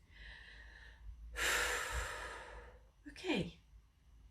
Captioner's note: blonde woman breathes deeply